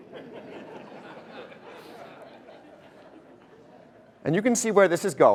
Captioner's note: audience laughter